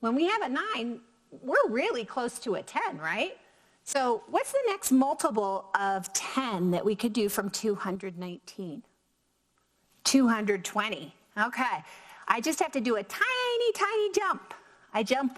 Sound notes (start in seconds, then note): none